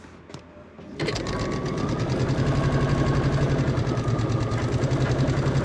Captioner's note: sewing machine clunking